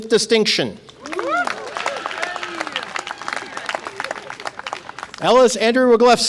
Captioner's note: audience applause and cheer